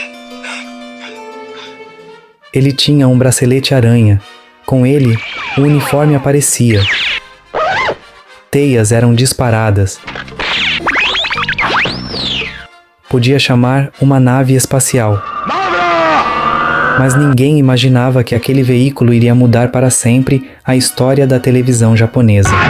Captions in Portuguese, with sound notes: Ele tinha um bracelete aranha. Com ele o uniforme aparecia. Teias eram disparadas. Podia chamar uma nave espacial. [grito] Mas ninguém imaginava que aquele veículo iria mudar para sempre a história da televisão japonesa.